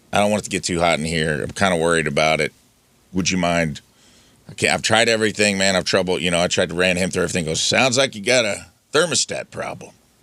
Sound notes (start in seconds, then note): none